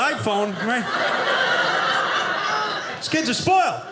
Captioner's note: audience laughing